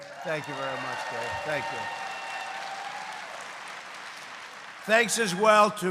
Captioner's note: applause